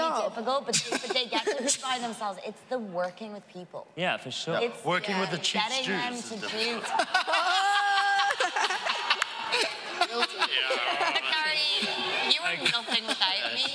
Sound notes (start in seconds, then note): 6.5 laughing; 8.9 audience cheering